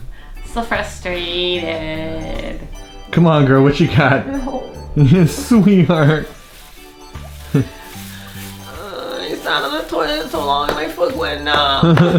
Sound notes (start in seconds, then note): 4.1 whimpers; 12.0 chuckles